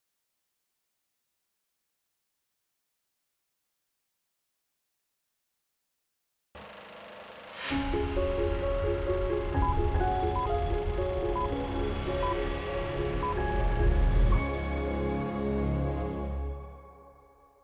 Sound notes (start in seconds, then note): 6.5 film rolling; 11.2 beeping